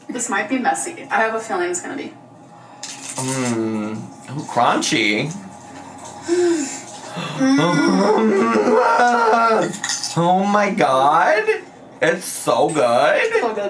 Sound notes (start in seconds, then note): 6.2 gasps; 7.0 groans